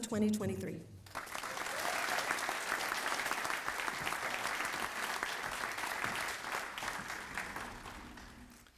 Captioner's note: applause